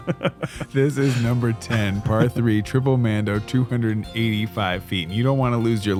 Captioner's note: laughs